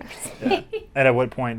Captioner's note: laughs